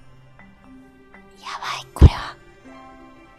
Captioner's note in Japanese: 囁き声